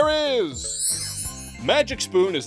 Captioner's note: sparkle noise